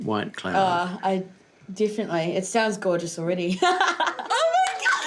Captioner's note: laughs